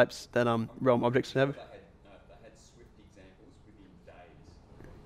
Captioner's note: voiceover